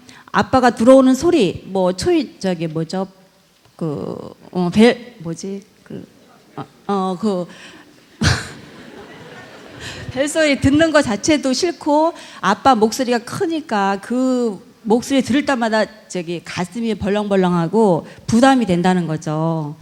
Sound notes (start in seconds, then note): 7.9 audience Laughter